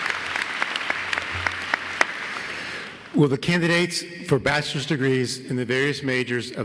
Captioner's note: applause